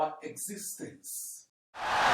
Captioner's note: wild applause and cheering for 17 seconds